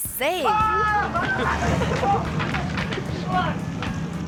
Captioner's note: screaming